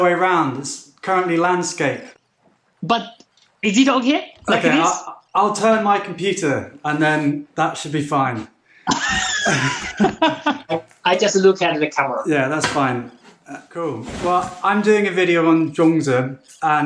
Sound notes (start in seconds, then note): 8.9 laughing